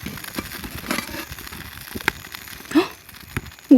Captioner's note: pit-a-pat